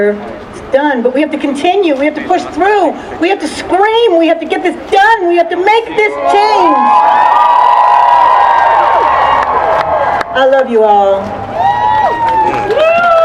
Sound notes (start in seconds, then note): 7.8 cheering; 11.2 cheering and applause